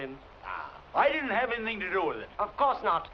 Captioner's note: scoffs